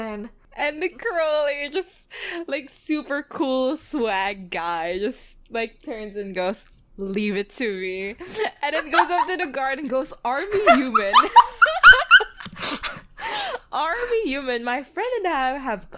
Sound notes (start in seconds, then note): 7.9 laughs; 10.5 both laughing